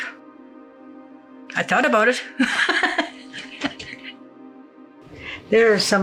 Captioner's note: laughs